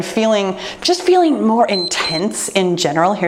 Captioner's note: timer beeps